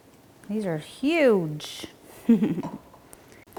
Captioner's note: chuckles